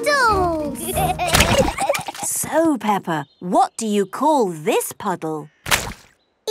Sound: giggling

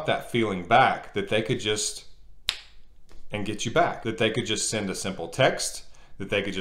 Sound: snap

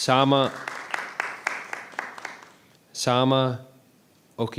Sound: applause

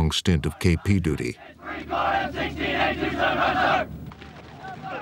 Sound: soldiers shouting

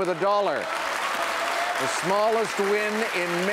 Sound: audience applauds

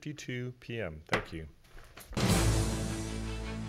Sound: gavel bangs; intense music

